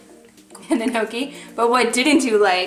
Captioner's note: laughs